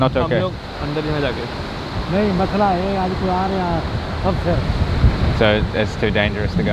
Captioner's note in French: Langue locale